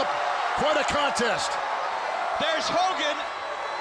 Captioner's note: crowd cheering